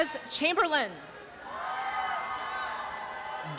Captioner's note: applause and cheering